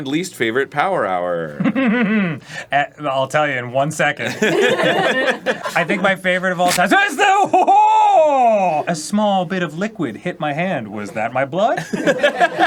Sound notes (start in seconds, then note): 1.5 sarcastic laugh muffled in his own mouth; 4.6 crew laughing